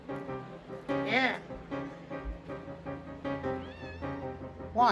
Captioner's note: meows